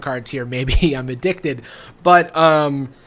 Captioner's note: laughs